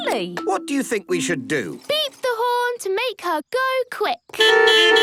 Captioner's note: beeping